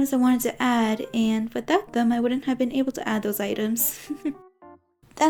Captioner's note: giggles